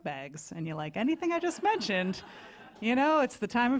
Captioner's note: laughter